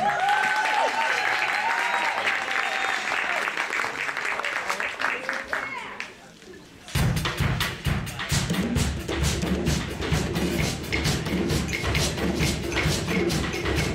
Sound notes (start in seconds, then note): 0.0 applause